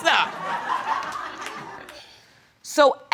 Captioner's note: audience laughing